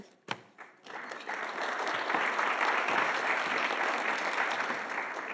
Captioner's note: audience applauding